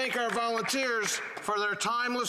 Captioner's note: some Applause